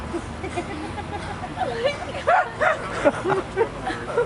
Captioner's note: laughter